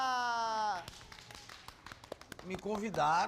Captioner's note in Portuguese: aplaudindo